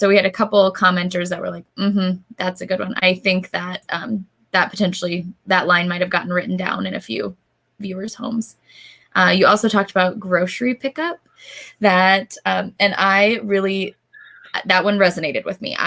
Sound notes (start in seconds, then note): none